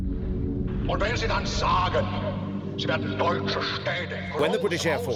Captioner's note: Hitler speaking German